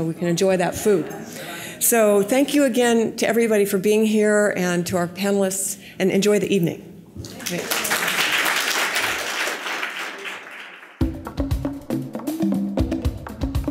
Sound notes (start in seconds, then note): 7.3 audience applause; 11.0 upbeat music